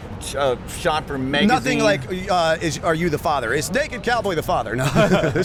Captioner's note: chuckle